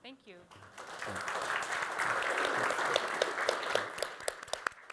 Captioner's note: applause